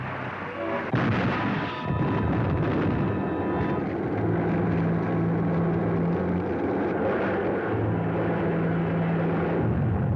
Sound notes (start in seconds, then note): 0.9 explosion; 0.9 crashes